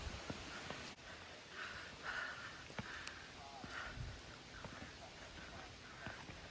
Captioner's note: heaving breathing intensifies